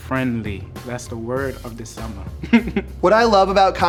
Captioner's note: laughs